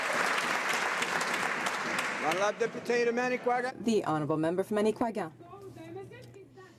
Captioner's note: some Applause